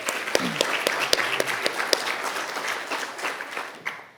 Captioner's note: audience applauding